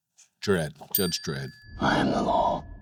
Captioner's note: tone dings